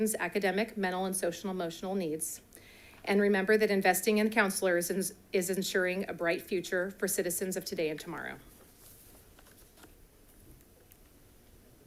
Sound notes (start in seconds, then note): none